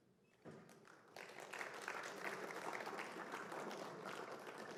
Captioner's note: applause